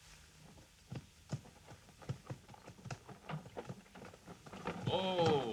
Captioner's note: hooves clopping